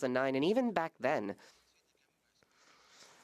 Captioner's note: speaking French